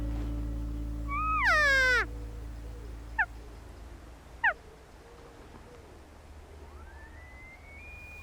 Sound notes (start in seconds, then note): 1.2 cow calling